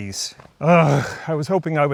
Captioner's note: groans